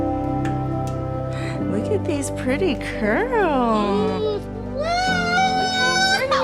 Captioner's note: cheers